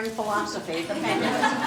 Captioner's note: laughter